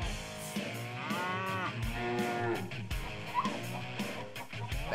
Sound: mooing

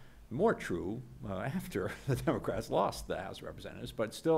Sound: laughing

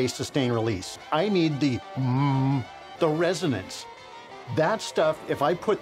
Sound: hum

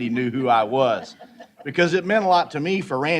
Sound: laughter

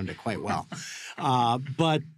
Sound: laughs

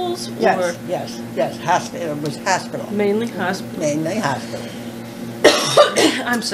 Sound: coughing

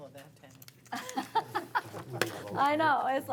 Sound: laughing

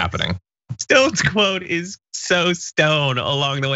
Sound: laugh

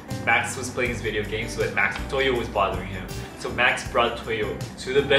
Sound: none

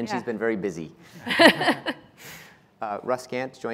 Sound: laughing

